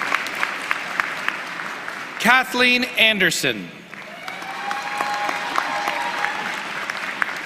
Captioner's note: applause